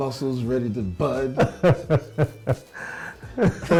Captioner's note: laughing continues